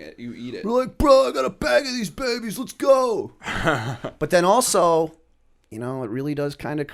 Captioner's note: chuckle